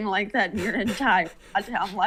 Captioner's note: laughter